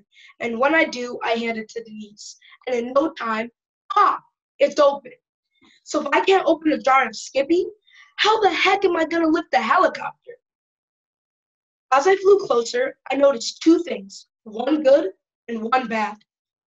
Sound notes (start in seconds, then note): none